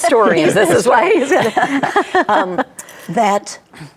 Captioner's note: group laughs